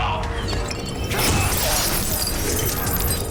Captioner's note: glass crashing; suspenseful music